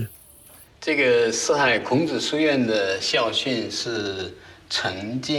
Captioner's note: hablan un idioma extranjero